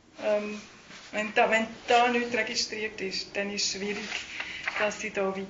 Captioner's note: speaking in Swiss German